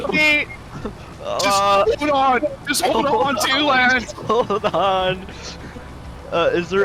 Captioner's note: laughing